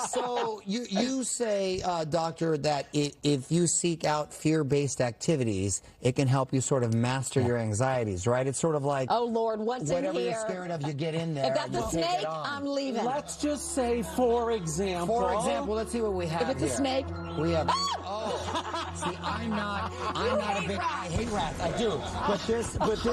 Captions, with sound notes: So you say, Doctor, that if you seek out fear-based activities, it can help you master your anxieties. It's sort of like-- Oh lord, what's in here? Whatever you're scared of, you get in there. You take it on. If that's a snake, I'm leaving. Let's just say, for example-- For example, let's see what we have here. If it's a snake-- [screams] See I'm not a big-- - You hate rats. - I hate rats. I do.